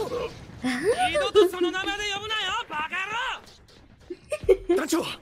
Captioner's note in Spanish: Risa de Willy Wonka